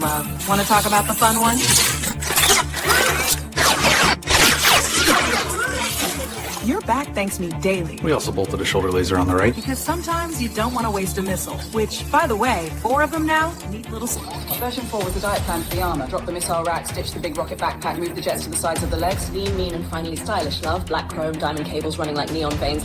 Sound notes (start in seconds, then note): 6.6 tech sound effects